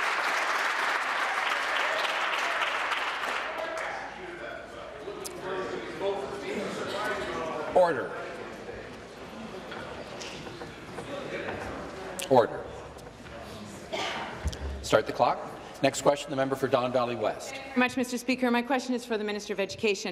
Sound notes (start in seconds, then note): 0.0 applause; 9.9 conversation din